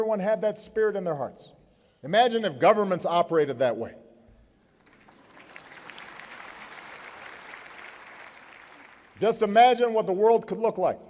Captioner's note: applause